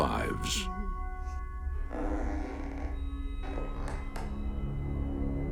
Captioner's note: floor boards creaking; ominous music